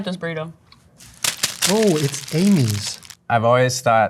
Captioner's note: wrapper crunching